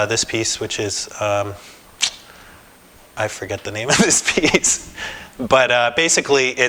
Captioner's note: laughter